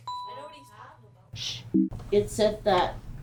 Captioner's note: ding; error sound